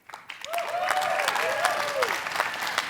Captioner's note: cheering